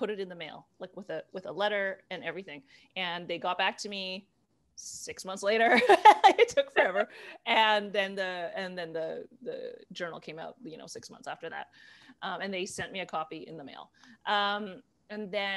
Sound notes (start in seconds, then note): 5.7 laughter